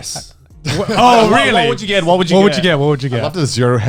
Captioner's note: all laughing